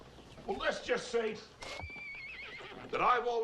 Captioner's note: horse whinnying